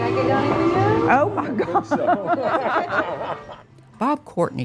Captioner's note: laughing